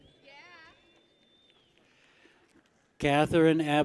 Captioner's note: people cheer